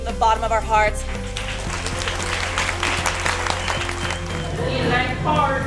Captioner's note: audience applauds